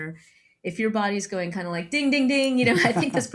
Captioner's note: laughs